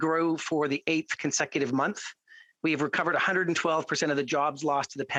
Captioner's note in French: voix de l'interprète